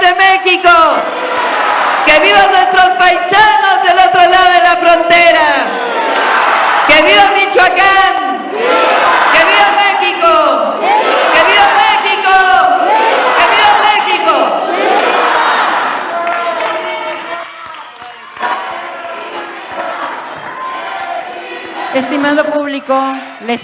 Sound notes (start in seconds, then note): 16.1 applause